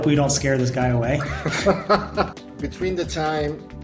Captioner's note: laughs